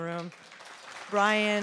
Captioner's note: applause